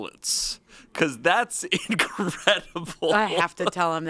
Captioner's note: laughs